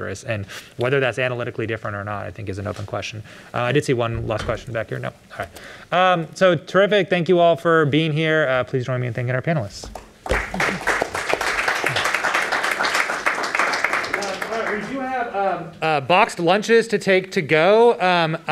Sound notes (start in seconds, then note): 9.9 applause